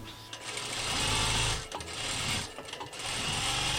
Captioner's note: sewing machine sounds